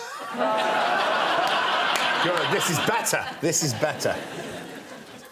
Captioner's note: laughs